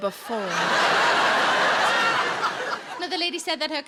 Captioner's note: audience laughing